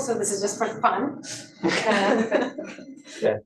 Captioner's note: laughter